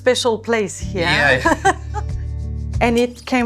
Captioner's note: laughing